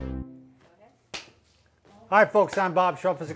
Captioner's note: hands clap